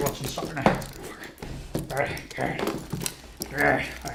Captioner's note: mumbles under breath; exaggerated grunting